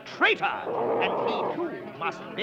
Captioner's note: Arrow growling